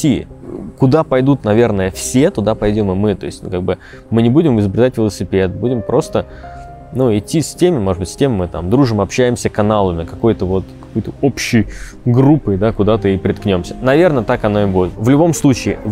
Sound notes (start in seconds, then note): none